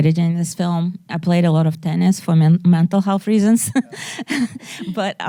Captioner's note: laughs